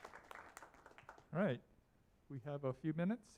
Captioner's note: applause